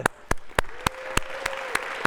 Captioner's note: applause